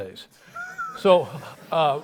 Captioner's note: laughs